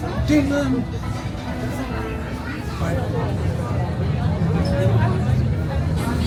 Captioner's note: guests chatter; expectant music continues